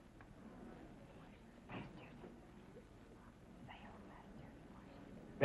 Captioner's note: whispering